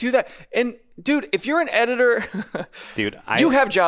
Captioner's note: laughs